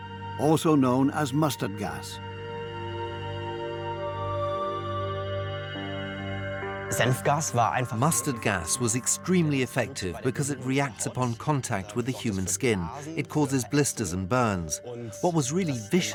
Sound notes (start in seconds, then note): 7.2 in German; 8.5 dubbed in English